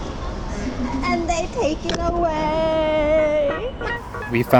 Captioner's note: crying